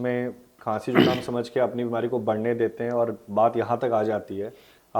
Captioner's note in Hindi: गला साफ़ करने की आवाज़